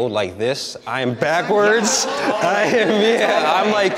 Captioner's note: participants laughs